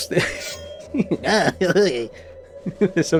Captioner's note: gremlin laughter